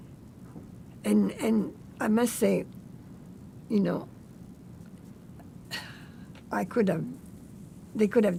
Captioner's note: sighing